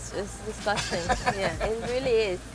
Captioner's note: laughs